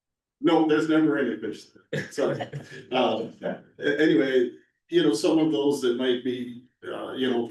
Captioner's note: laughter; laughter